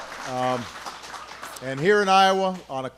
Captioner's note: applause